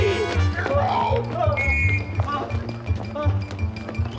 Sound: whistle

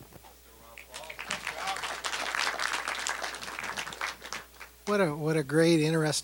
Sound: applause

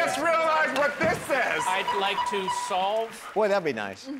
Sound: beep beep beep

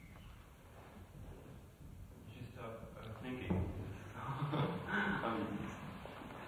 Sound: laughs

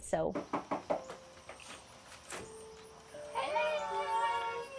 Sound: knocking

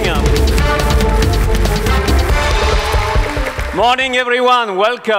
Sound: applause

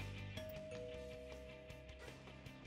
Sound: doorbell rings

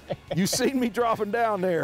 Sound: laughs

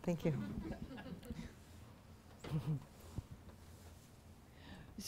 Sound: audience laughter

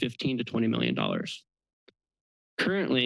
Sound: pause

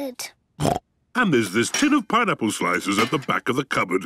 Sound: snorts

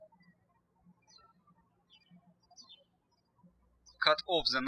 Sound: birds chirping

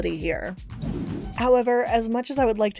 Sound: graphic whooshing

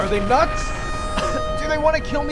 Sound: cough

